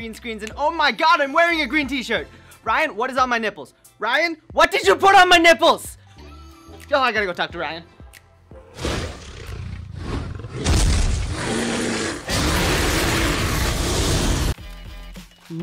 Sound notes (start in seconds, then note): 8.7 dragon snarling; 12.2 flames raging